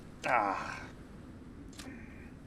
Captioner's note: groaning